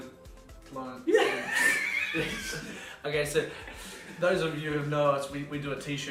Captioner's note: laughing